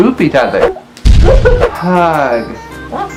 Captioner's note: explosion